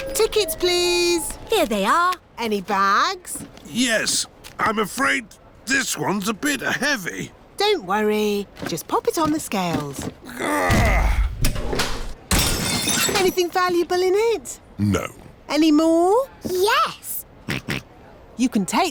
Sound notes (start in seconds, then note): 10.2 grunts; 12.3 crashes; 17.5 snorts